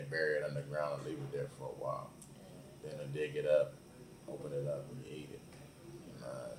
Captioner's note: none